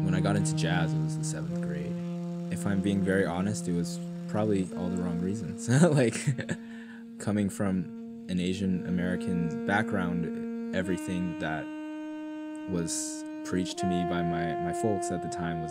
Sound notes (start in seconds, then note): 5.6 chuckles